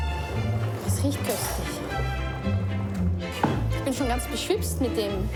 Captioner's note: speaking foreign language